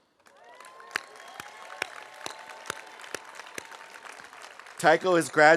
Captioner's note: audience applauding; audience cheering